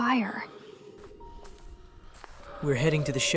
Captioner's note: footsteps